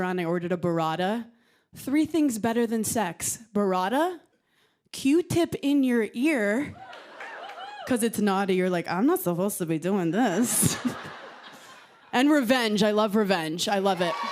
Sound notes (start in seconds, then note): 10.3 laughter